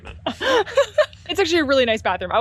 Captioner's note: slight giggles